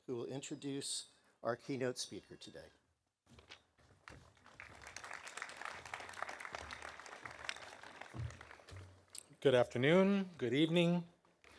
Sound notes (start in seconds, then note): 4.4 audience applauding